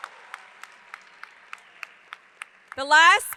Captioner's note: audience applauds; hands clapping